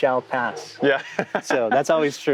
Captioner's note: laughing